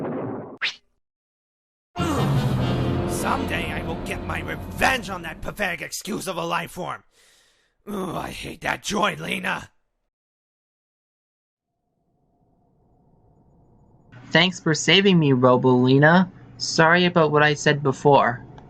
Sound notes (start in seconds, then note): 3.4 grunts